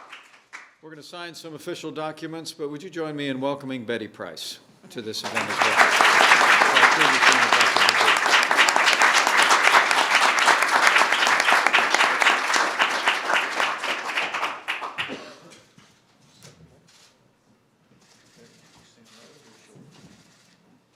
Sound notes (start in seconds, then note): 7.2 applause